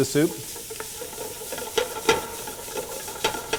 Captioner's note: sizzling sounds